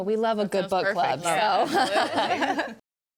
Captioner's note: people laughing